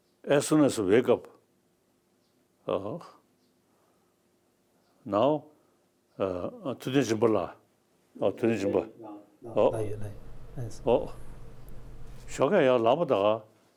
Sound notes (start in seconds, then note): 7.4 speaking in Tibetan